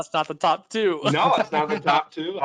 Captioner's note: laughing